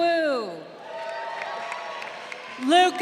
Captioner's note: crowd cheering